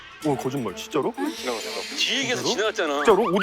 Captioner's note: murmuring